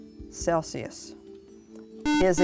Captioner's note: buzzer